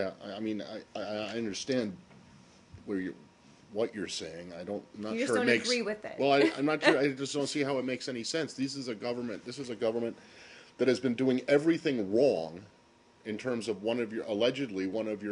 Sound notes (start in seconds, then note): 6.4 laughter